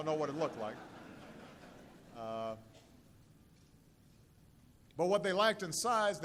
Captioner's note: laughter